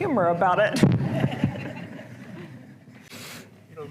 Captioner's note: laughter